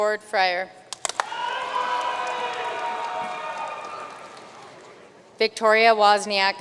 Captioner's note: audience cheering and applauding